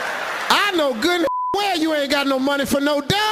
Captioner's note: beeping